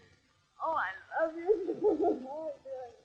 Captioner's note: crying